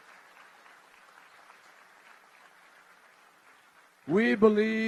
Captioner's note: applause